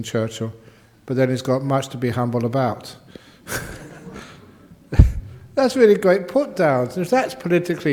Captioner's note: chuckles